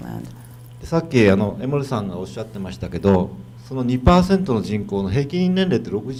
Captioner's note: speaking foreign language